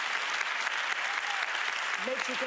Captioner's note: applause